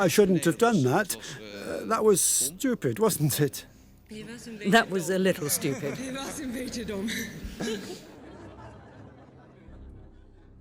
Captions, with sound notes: I shouldn't have done that. That was stupid, wasn't it? That was a little stupid. (LAUGHTER)